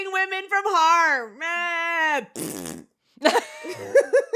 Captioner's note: mimics whining, then blows a raspberry; both laugh